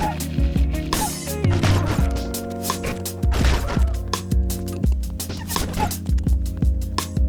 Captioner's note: tears